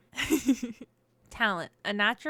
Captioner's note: laughs